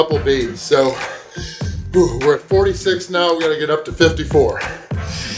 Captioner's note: grunts